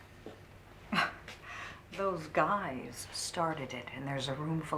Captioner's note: chuckles